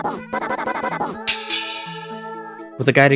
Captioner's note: happy bell noises